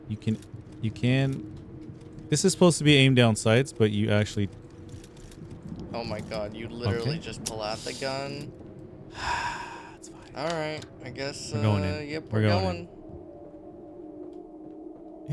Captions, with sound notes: You can, this is supposed to be aim down sights, but you actually... Oh my god, you literally just pull out the gun. (sighing) It's fine, all right, I guess. We're going in, we're going in.